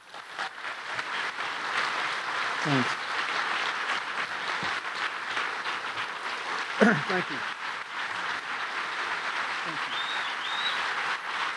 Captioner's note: applause